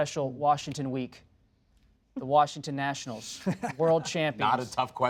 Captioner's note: laughter